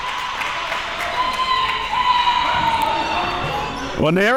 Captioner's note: audience cheering and applauding